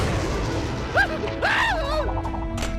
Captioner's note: screaming